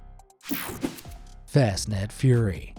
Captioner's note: screen whooshing